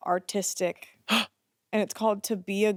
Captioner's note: gasps